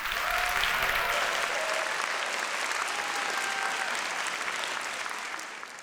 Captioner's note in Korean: 환호와 박수